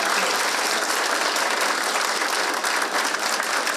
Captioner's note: all clapping